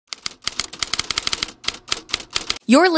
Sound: keyboard clicking

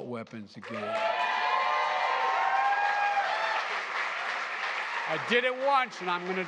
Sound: applause

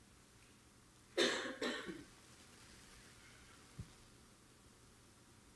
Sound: audience member coughing

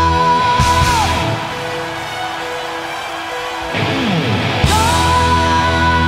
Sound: audience cheers

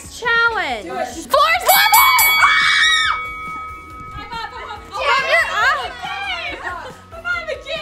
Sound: bell rings

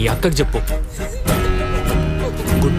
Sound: sobbing

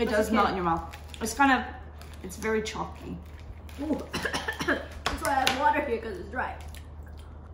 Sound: coughs

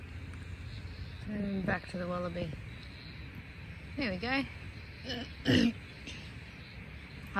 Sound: clears throat

